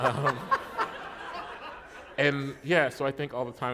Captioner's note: laughter